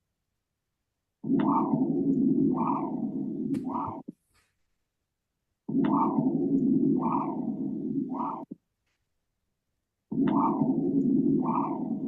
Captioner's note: pulse sounds